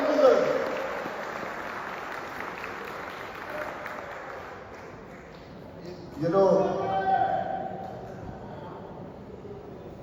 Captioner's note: 박수 갈채